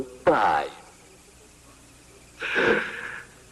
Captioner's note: inhales